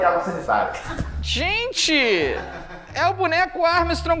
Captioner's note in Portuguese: risadas